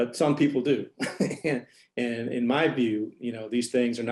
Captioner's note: laughter